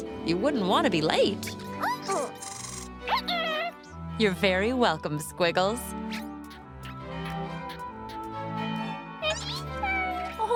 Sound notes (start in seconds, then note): 2.8 squeaking